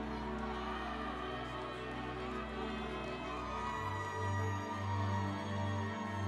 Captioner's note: audience cheering; instrumental music